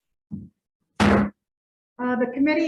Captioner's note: gavel bangs